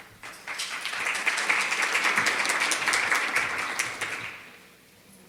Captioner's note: applause